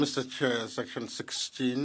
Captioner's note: speaking French